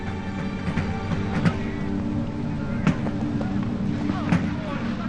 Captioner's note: soldiers chattering